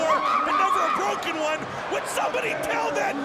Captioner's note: Daffney screams